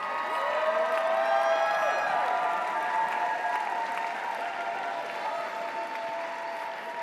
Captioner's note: audience applauds; audience cheers